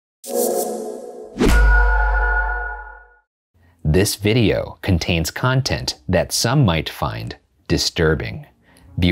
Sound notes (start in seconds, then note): 0.2 logo whooshing and pinging